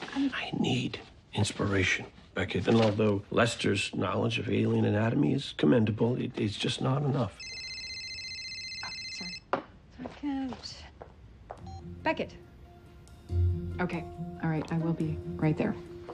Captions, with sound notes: I need inspiration, Beckett. And though Lester's drawings of alien anatomy are commendable, it is not just enough. (phone ring) Sorry... Beckett... Okey, alright. I will be right there.